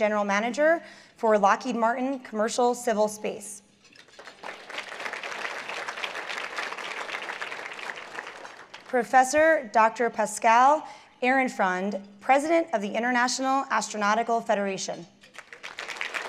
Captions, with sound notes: AND GENERAL MANAGER FOR LOCKHEED MARTIN, COMMERCIAL CIVIL SPACE. [ APPLAUSE ] PROFESSOR, DR. PASCALE EHRENFREUND, PRESIDENT OF THE INTERNATIONAL ASTRONAUTICAL FEDERATION.